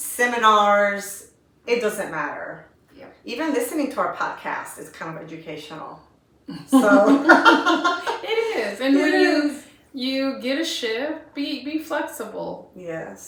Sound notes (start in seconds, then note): 6.7 laughter